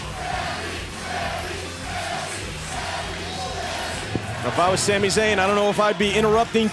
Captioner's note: crowd cheering